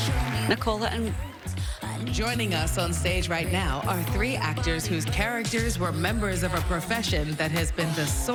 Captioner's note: applause